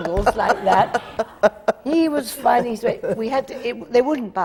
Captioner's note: laughs